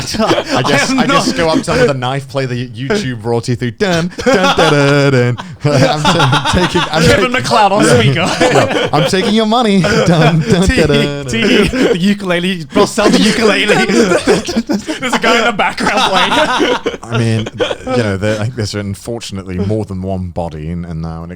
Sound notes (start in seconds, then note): 11.3 laughing loudly